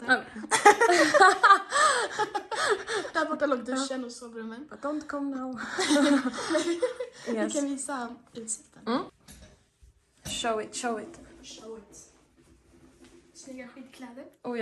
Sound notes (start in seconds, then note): 0.5 both laughing; 5.7 both laughing